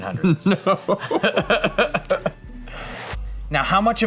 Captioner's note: laughs